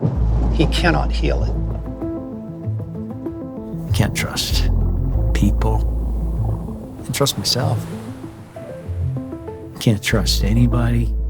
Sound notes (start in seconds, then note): 2.4 reflective music; 5.7 water rustling